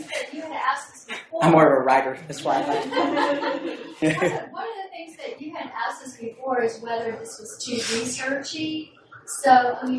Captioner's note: laughter